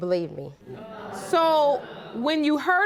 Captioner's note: audience murmuring